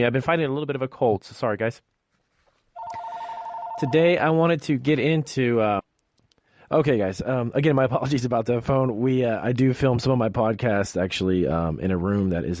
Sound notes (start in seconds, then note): 2.8 telephone rings